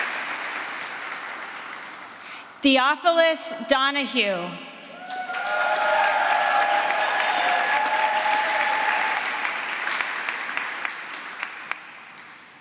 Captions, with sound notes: Theophilus Donoghue. [APPLAUSE]